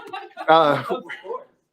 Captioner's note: laughter